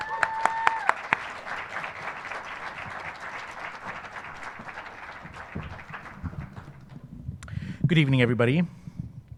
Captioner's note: applause